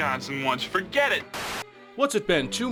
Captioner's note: buzzing